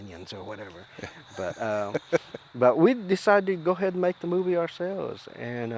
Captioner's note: laughs